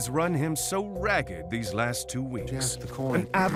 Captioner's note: Two-Face muttering